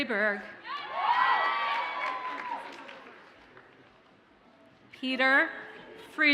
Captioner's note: audience cheers and applauds